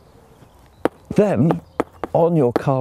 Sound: tool knocking

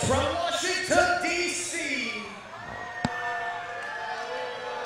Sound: audience cheers, boos

